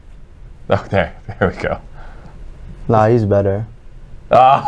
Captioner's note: laughs; laughs